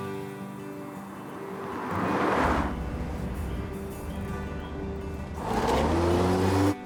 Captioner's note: gentle music; engine rumbling